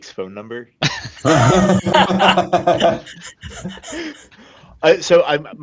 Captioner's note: laughter